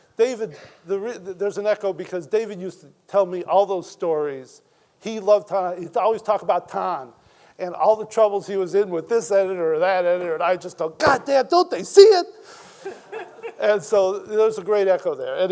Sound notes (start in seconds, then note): 12.8 Ta-Nehisi chuckles; 12.8 audience chuckling